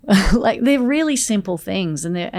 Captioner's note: Layne chuckles